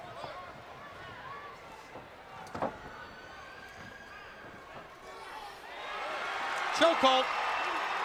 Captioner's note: crowd cheering